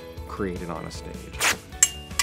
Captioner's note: fabric rips, clang; crack, clang, shatter